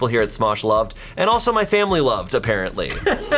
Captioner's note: colleagues laughing